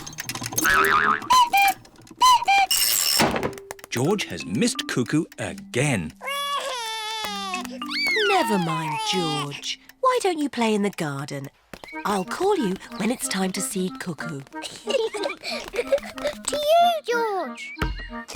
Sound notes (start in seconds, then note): 1.3 clock cuckoos; 6.1 sobs; 14.6 both laugh